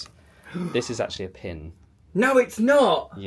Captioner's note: gasps